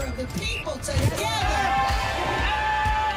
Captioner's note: cheering